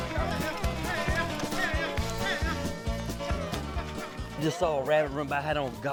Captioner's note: group shouting